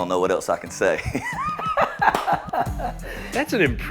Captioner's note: laughs